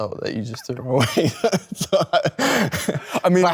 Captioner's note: Leo laughs